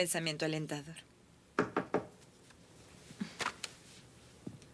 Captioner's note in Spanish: Batendo na porta